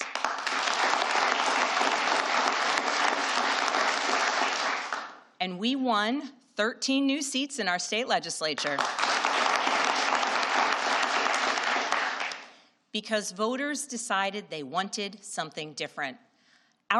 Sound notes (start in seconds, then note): 0.0 applause; 8.6 applause